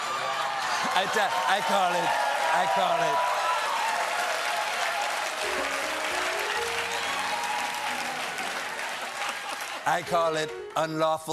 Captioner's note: cheers and applause; laughter; piano riff